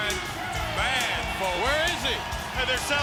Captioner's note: crowd cheering